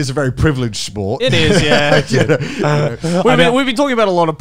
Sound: laughing

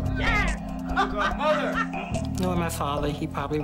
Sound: laughing

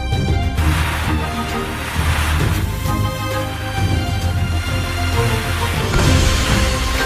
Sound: shooting

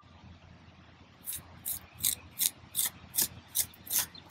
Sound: trowel scraping

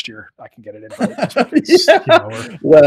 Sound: laughing

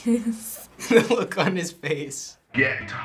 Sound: chuckling

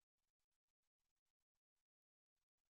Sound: none

